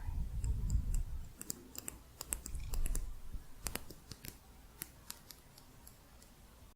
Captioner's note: tapping